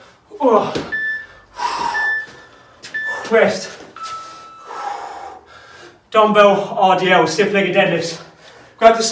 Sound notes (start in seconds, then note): 0.8 beeping